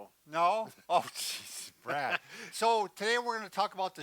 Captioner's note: chuckling